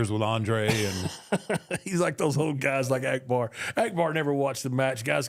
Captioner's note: laughing